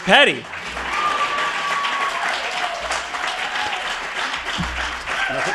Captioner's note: audience applauding